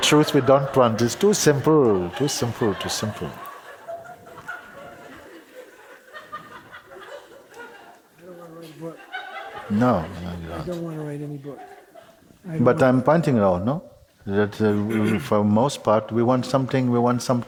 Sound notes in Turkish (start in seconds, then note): 4.0 Kahkaha devam eder